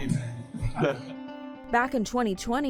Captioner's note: group laughing